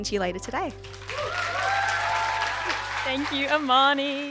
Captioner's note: cheers and applause